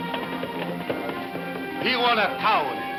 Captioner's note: hooves thumping; speaking in a foreign language